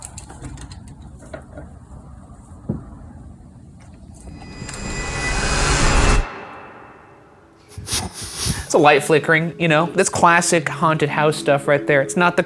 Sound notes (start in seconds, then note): 4.3 tense foreboding music; 7.6 snickering